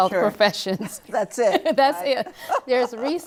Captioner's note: laughter